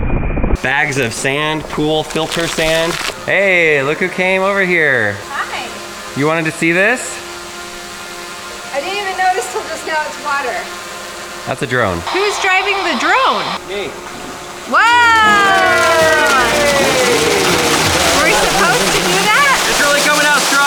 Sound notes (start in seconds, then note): 11.3 drone buzzing; 13.9 water spurting; 14.7 people cheering